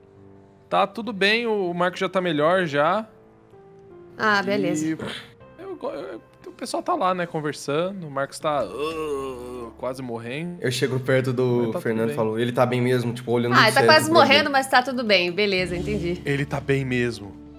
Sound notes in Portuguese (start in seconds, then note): 8.6 grunhido